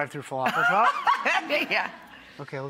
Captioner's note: laughs